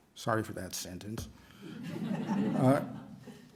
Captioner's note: laughter